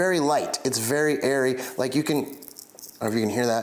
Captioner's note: peppercorn crunching